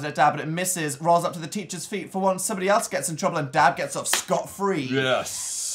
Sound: claps

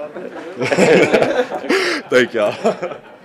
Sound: everyone laughs

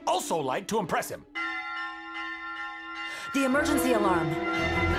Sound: bells sounding

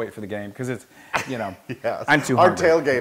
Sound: laugh

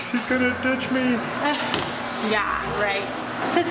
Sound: laughing

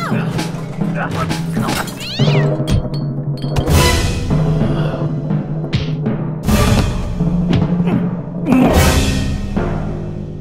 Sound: crashing furniture, cat yowl, punches

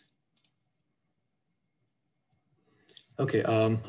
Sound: clicking

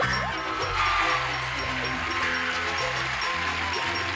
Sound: cheers and applause

